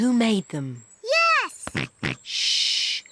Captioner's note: snorts